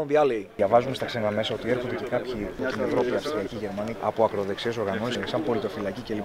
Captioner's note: speaking in foreign language